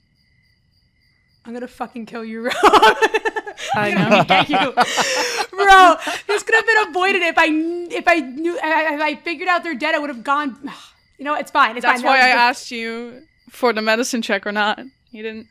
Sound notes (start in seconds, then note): 2.4 laughs; 10.4 exhales